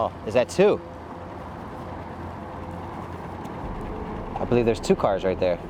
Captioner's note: motor droning; tense music continues